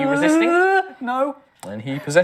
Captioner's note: fearful